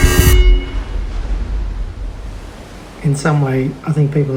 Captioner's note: waves sloshing